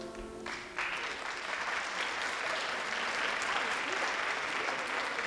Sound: audience applauding

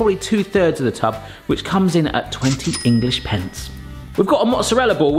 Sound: bell dings

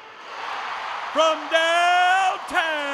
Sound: cheers

